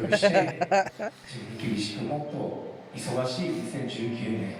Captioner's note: laughing; speaking foreign language